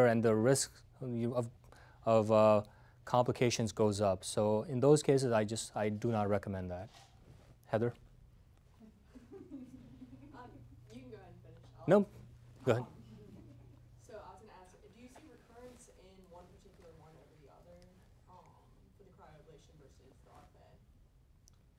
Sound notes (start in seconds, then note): 8.8 giggling